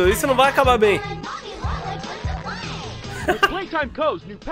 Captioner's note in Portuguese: risos